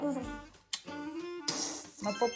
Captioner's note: mwah